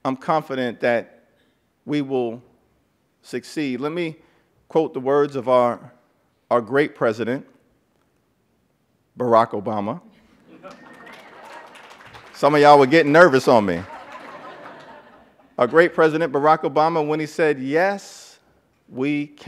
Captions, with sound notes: during the 116th Congress, and others we'll lay a foundation to move them forward. But ultimately, I'm confident that we will succeed. Let me quote the words of our great president, Barack Obama. (Applause.)